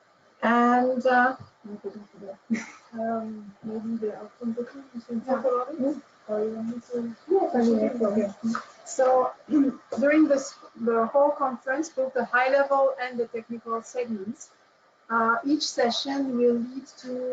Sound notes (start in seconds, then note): 1.8 indistinct Chatter